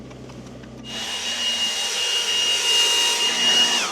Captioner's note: blower whirs